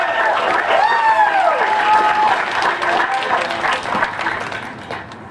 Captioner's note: cheering and applause